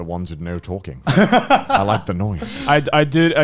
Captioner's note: laughing